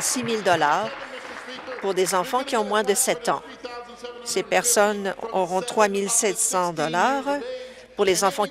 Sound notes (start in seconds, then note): 2.0 applause